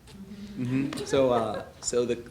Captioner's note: laughing